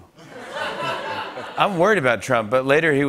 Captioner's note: laughter